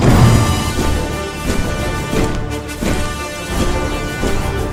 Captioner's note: nonsynchronized army marching